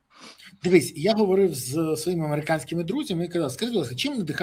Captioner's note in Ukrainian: сопіння